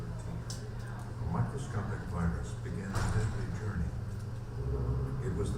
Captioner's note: voiceover